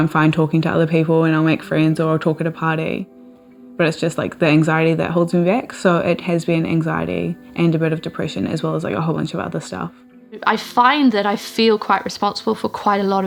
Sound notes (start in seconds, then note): none